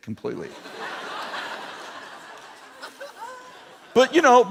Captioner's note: laughter